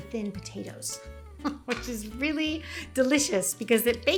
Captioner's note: chuckles softly